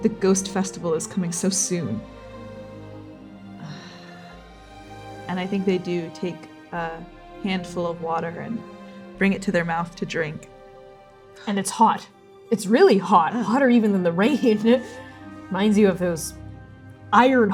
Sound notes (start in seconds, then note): 3.4 sighing